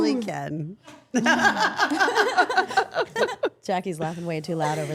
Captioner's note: all laughing